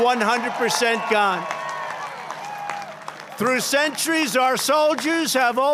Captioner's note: applause